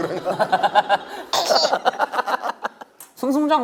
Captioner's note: thrilled, Laughing